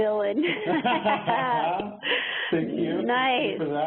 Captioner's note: both laugh